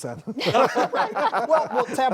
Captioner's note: guest panel laughs